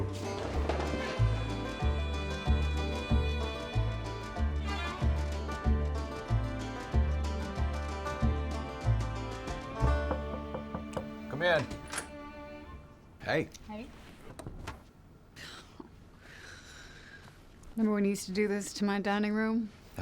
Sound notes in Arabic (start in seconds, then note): 0.1 موسيقى ريفية مبهجة; 10.0 طرق الباب; 10.0 يفتح الباب